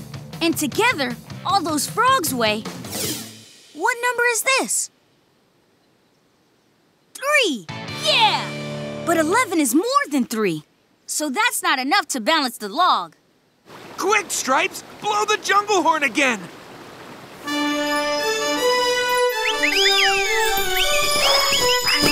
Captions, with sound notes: And together, all those frogs weigh... What number is this? Three, yeah! But eleven is more than three so that's not enough to balance the log. Quick, Stripes, blow the jungle horn again! [playing horn] [chirping]